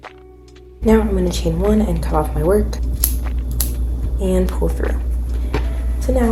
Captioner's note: scissors cut